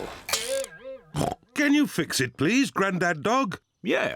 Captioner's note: car clunks; oinks